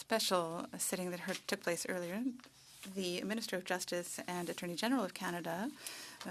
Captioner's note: speaking French